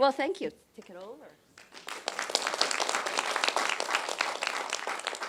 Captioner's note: applause